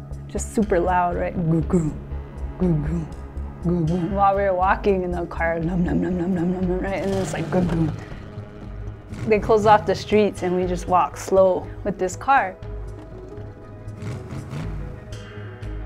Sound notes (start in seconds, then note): 5.8 mimics engine sound; 12.9 engine revving